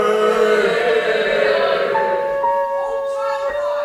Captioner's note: scoffs; audience boos